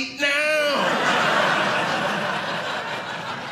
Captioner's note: audience laughing